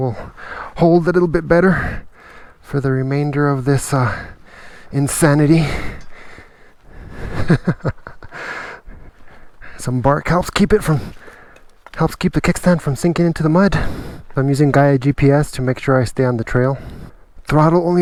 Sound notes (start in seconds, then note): 6.0 laughs